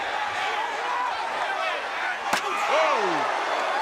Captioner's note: crowd cheering